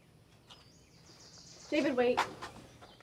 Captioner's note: birds chirping